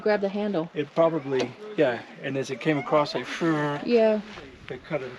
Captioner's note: hums